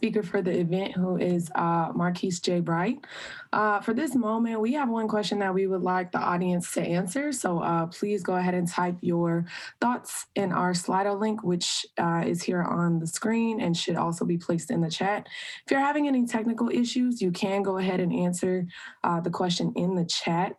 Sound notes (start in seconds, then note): none